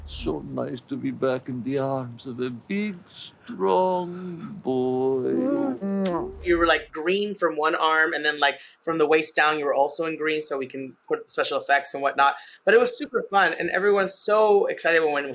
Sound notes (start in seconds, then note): 3.9 awkward groan; 5.7 smooch